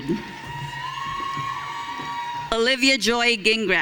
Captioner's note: audience cheering